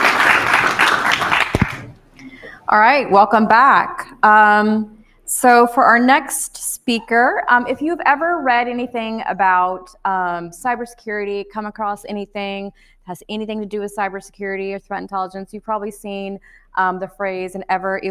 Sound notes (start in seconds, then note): 0.0 audience applauding